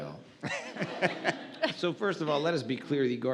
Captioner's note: audience laughs